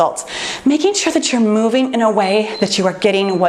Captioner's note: timer beeps